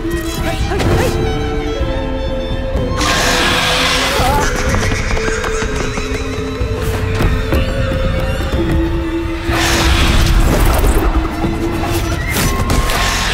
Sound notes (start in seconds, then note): 2.9 screeches; 3.0 yells